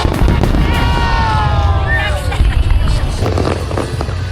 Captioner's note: whispering